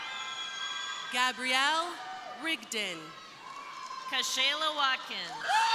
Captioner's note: crowd cheering; crowd cheering